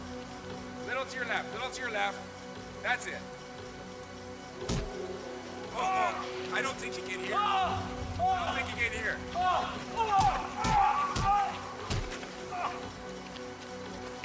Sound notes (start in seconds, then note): 7.2 man yelling; 10.7 light pounding